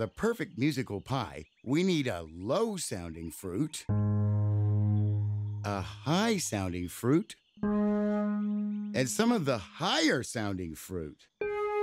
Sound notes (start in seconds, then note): 3.9 low pitched honking; 7.6 high pitched honking